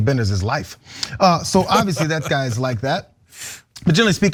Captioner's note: laugh